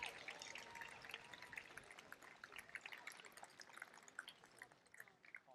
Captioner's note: applause